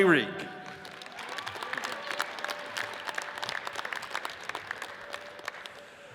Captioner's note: audience cheers and applauds